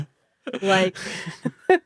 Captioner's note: chuckles